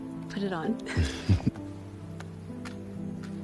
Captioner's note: chuckling